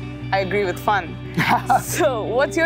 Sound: laughing

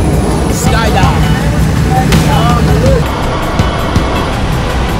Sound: men chattering

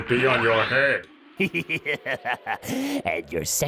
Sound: chuckling

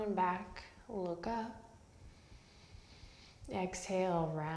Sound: deep breath

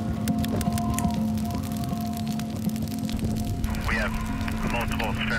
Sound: wind howling

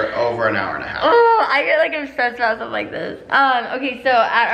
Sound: groans

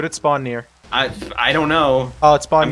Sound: explosions

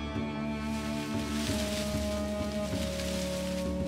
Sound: sounds of branches swaying

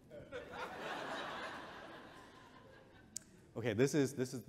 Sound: audience chuckles

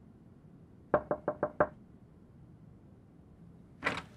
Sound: knocking

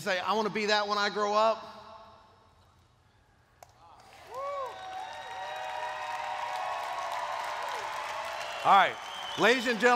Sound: cheers

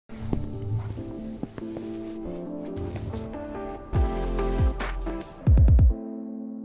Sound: footsteps plodding; upbeat music

